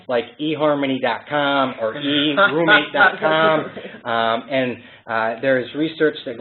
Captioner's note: laughter